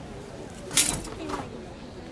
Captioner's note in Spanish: choque de espadas